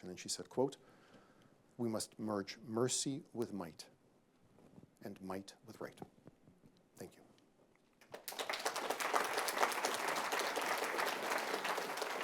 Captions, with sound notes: And she said, quote, "we must merge mercy with might and might with right." Thank you. [APPLAUSE]